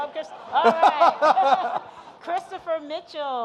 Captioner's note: audience laughing